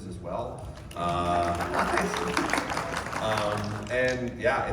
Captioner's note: applause